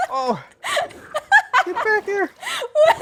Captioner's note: laughs